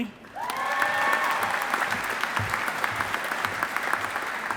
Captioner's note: audience applauding